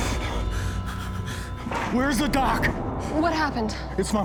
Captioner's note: door opens